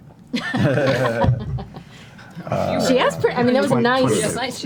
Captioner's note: all laugh